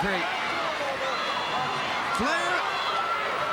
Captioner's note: crowd cheering